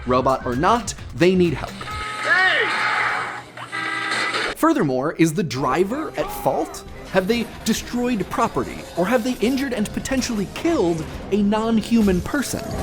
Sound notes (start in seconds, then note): 2.1 accident sounds and yelling